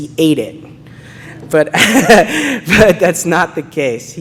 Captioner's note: laughing